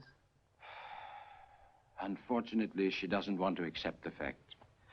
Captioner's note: sighs